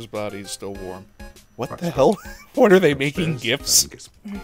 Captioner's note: wheeze